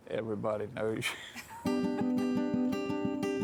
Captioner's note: chuckling; happy music